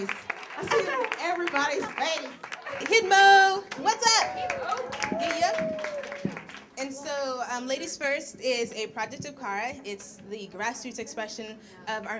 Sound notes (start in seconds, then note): 3.6 cheers and applause